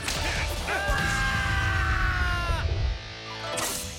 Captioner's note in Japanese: マーク侍とドリアンの悲鳴